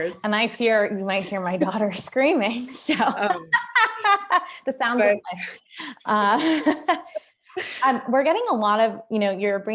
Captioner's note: laughter